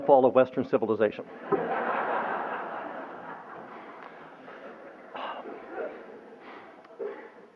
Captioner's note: laughter